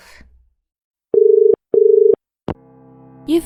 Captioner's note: dial tone